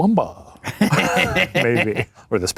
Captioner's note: laughs